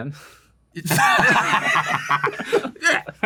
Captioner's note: laughter